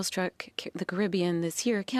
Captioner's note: speaking French